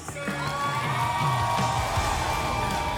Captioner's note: applause and cheering